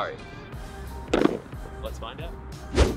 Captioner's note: boxes clattering